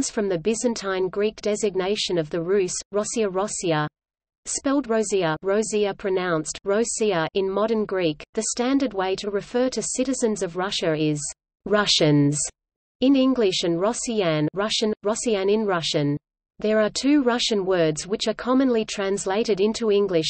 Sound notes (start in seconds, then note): 13.6 Russian: россияне